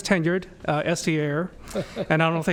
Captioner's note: laughter